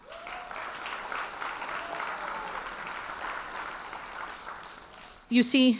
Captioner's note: audience cheers and applauds